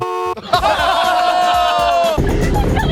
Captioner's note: horn honks; all laughing